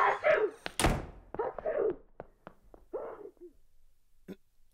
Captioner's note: continues to sneeze